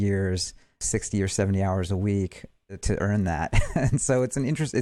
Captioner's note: chuckles